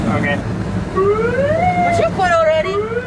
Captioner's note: turning Sirens on/off